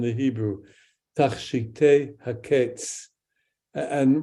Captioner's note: speaks in Hebrew